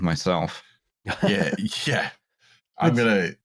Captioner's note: laughs